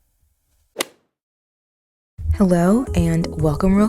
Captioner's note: golf hit sound effect